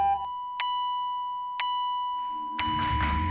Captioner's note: heart monitor rhythmically beeps